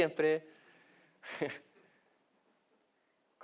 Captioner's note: laughing